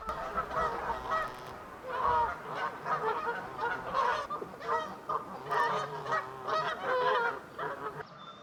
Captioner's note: geese honking